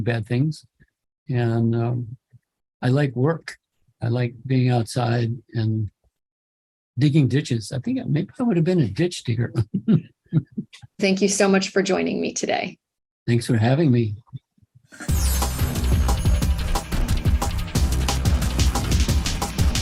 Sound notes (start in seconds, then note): 9.4 chuckle